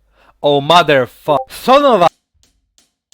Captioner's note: Discord Ping